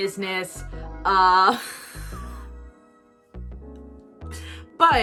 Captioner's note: laughs with discomfort